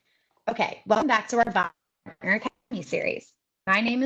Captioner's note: audio is choppy